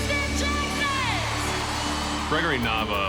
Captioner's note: audience cheers